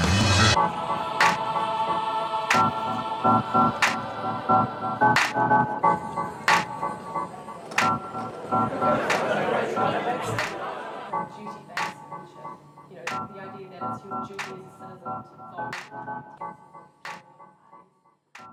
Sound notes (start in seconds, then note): 0.0 upbeat organ music; 10.0 distant speaking